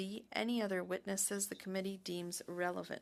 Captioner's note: speaking French